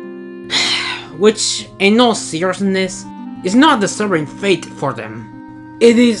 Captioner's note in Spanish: Suspiro